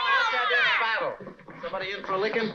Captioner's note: all shouting